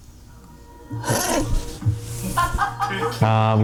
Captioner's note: laughing